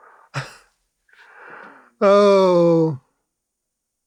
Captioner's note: laughs